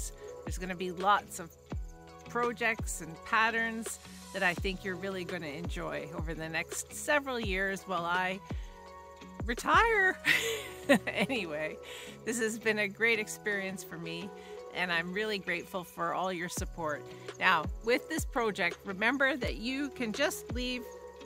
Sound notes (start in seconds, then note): 10.2 chuckle